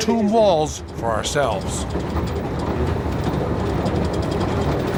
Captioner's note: train rattling